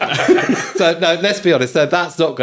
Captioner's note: laughing